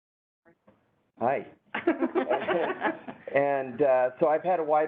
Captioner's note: laughing